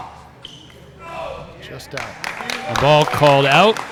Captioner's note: applause